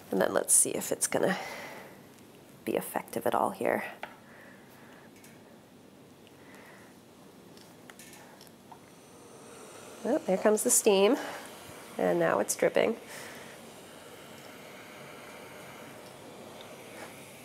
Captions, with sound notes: and then let's see if it's going to be effective at all here. (steam hisses) Ooh, here comes the steam. And now it's dripping.